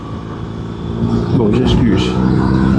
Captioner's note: engine